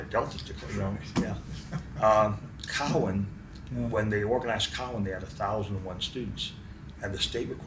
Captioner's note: laughs to self